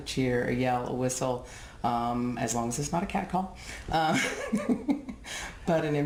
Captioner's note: laughs